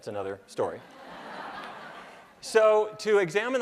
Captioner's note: laughter